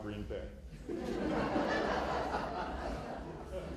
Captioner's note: laughter